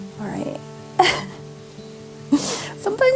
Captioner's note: laughs